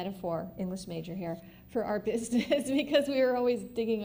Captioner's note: laughs